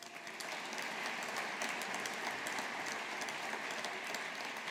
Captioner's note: audience applauding